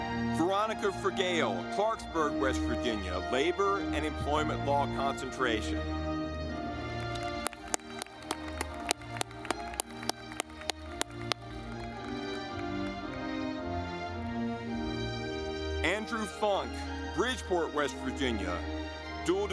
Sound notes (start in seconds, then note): 6.9 audience clapping